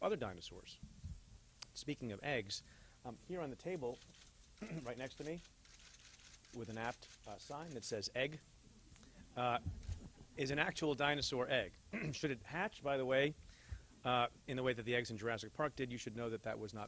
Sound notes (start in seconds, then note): 4.6 clears throat; 8.7 chuckle; 11.9 clears throat